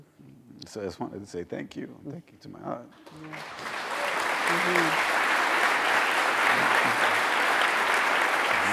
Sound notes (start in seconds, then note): 3.0 applause